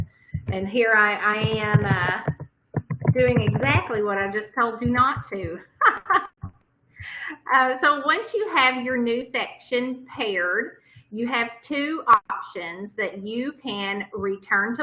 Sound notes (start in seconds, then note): 5.7 laughter